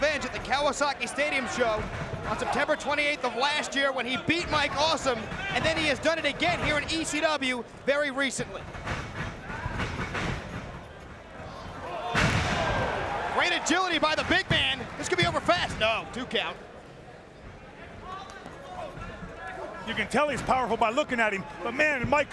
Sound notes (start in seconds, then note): 11.5 crowd exclaiming; 11.9 bodies slamming; 17.9 crowd chattering